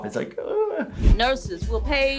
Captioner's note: whimpers